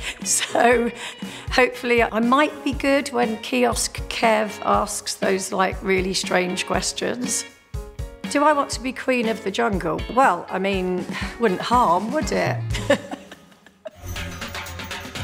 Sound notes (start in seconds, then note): 12.7 laughs